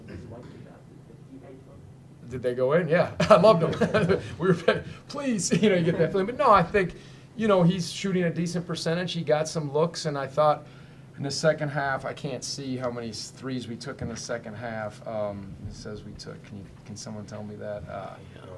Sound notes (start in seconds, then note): 3.2 laughter